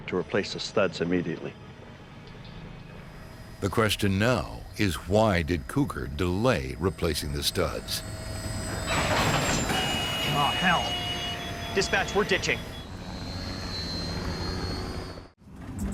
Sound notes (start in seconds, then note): 8.0 creaking; 8.1 airplane engine roaring; 13.4 airplane engine roaring